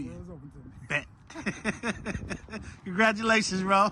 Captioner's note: laughs